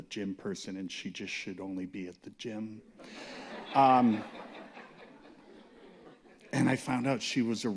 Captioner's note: laughter